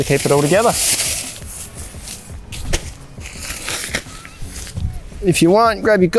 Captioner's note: elastic crackles as it slides